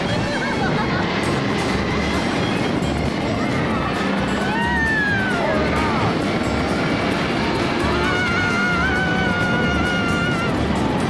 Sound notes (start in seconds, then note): 0.1 laughing; 5.1 people screaming